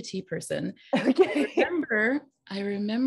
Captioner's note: laughing